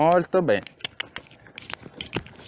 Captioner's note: cluck